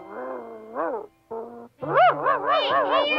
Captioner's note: Arrow barking